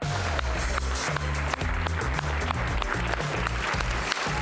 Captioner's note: audience applause